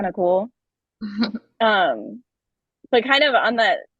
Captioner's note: chuckles